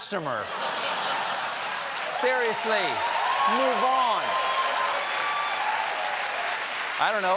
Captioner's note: cheers and applause